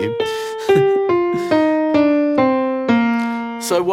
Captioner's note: plays piano; laughs; plays piano